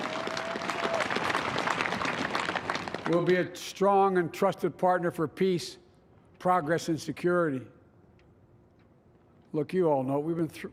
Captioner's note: applause